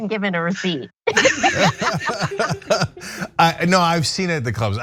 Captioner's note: laugh